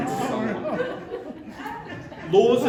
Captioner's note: laughter